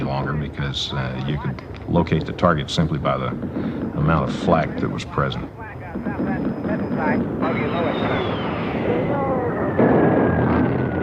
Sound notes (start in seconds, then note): 5.9 flak popping; 8.0 bombs whistling